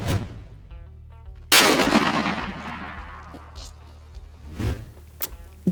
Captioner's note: gunshot